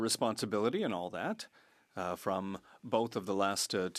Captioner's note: speaking French